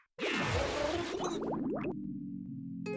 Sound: bubbling

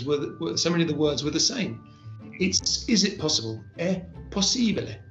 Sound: italian

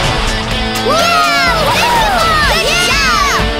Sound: cheering

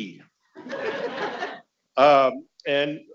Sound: audience laughing

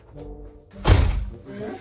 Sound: exits and shuts the door

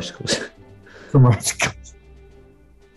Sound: laughing

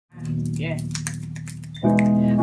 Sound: finger snapping

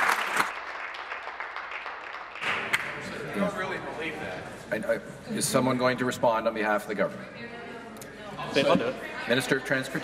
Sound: applause

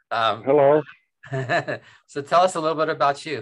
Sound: chuckles

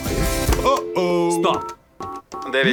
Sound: beeping

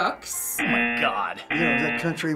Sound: buzzer

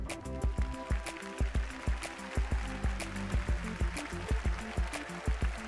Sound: applause

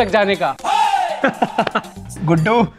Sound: laughing

